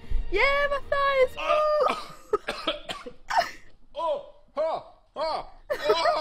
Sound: gagging and groaning; laughing

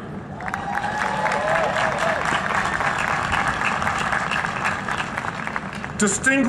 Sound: applause

